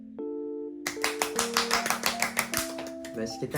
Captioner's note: happy seals clapping